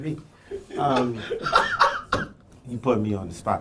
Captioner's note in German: Lachen